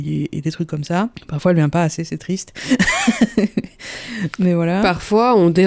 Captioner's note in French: rire